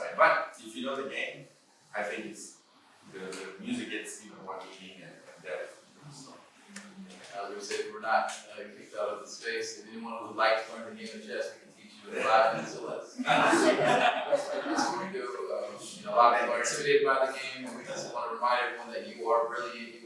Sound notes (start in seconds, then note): 13.1 laughter